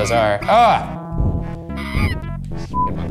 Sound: grunts

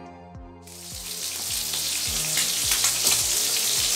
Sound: sizzling

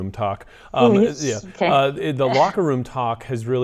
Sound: chuckles

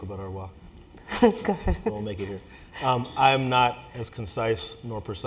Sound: laugh

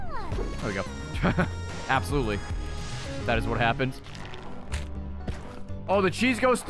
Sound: laughs

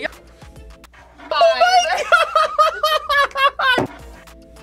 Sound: laughs

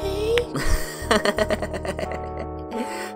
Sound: chuckles

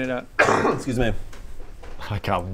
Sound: achoo

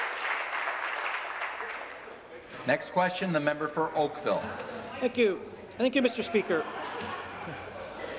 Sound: applause

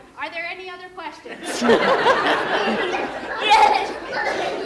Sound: laughter

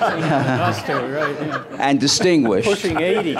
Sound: laughter

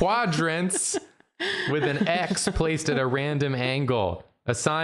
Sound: Jarina laughs

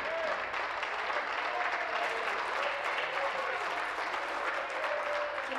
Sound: applause

